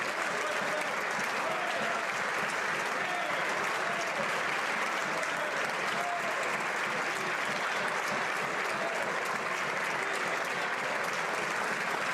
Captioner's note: applause